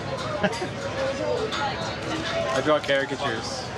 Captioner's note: laughing